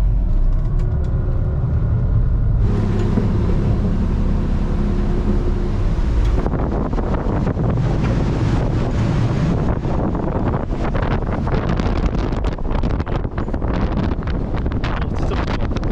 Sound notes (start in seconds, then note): 11.7 the wind's blowing a lot